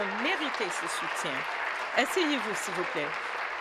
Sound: applause

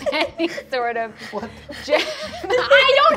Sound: all laugh

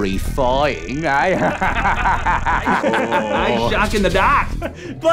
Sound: laughing

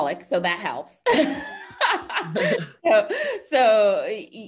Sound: laughs

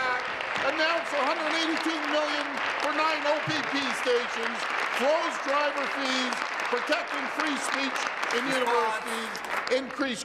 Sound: applause

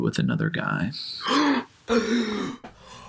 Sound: gasps

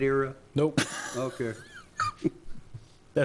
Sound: laughs

